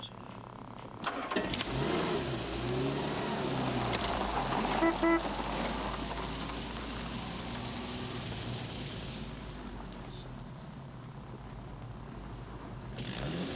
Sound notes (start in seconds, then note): 1.3 engine rumbling; 4.6 car horn blaring